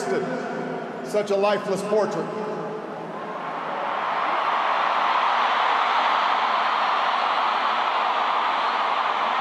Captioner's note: applause